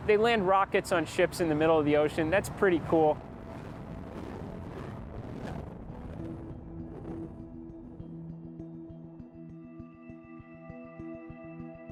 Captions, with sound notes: They land rockets on ships in the middle of the ocean. That's pretty cool. (distant engine roars) (peaceful electronic music)